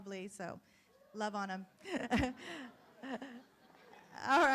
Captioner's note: laughs